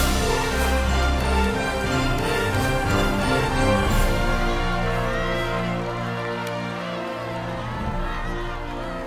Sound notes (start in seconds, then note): 4.4 crowd chattering excitedly